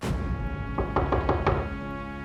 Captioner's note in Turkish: Kapı vurma sesi